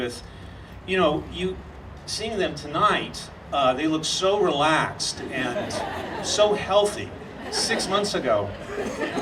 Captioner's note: audience laughing